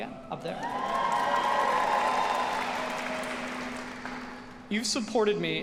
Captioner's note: audience cheering